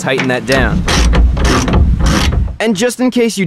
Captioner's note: ratchet noise™